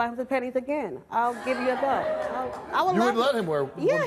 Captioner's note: audience laughing